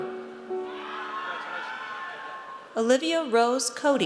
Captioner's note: audience cheers